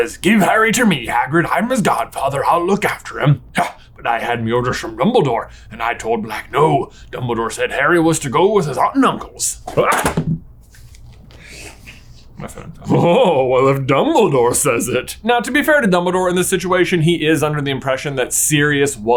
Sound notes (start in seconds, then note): 9.7 phone thuds; 10.5 yells out